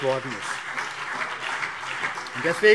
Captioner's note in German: Beifall CDU und BÜNDNIS 90/DIE GRÜNEN